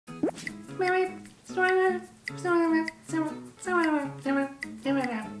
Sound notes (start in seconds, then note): 0.5 imitating Animalese